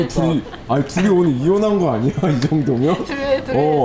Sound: laughing

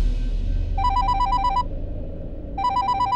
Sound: mobile phone rings

